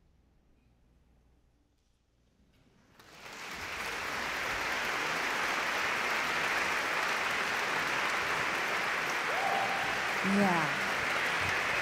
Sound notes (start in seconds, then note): 2.9 audience clapping